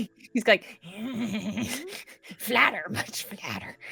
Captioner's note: Pivam groans